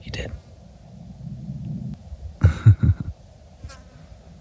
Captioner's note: laughs